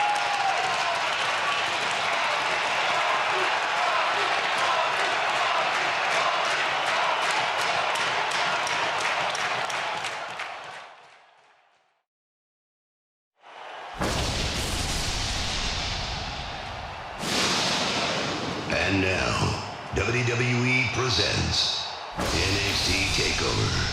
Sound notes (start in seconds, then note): 0.1 applause; 5.2 crowd chants "poppy"